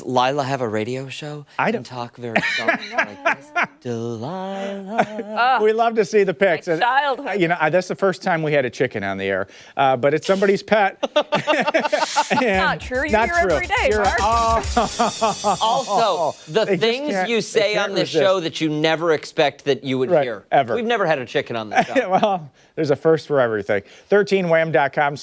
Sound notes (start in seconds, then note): 16.0 laughter